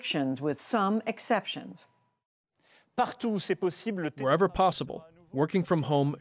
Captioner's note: through translator